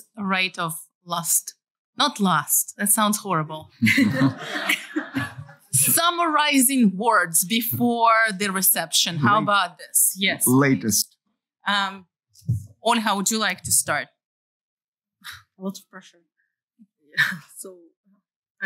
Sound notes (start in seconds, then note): 3.8 laughter